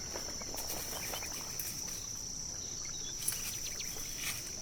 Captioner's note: paws pattering; insects chittering; birds chirping